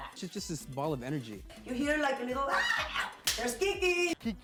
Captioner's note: clapping